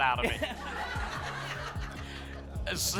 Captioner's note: laughter